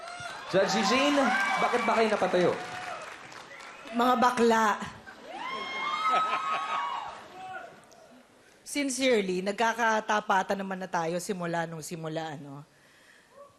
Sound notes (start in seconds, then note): 6.0 chuckles